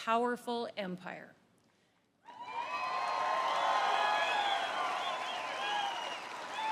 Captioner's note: applause